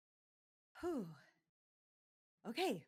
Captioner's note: sighs